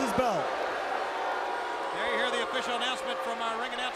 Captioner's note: crowd chatter